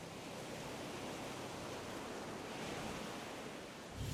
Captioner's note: waves breaking